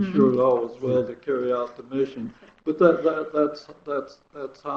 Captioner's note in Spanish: Se ríen